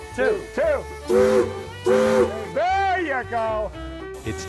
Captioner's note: loud whistle blowing